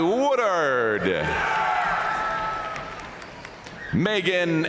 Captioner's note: audience cheering and applauding